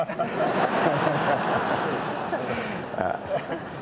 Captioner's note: audience laughs